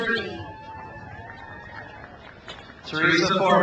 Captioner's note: crowd cheers